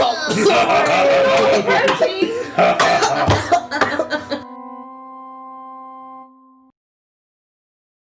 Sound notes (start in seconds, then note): 0.0 Maklaw and Ping-Pong laughing; 2.1 Maklaw and Ping Pong continue laughing; 2.1 Zyzzix coughs